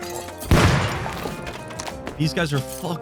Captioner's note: grenade explodes outside